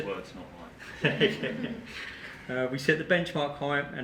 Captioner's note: group laughing